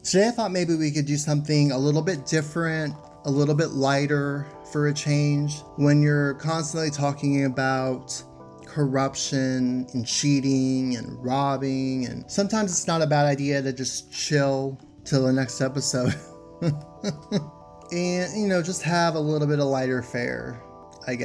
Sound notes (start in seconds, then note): 16.6 laughs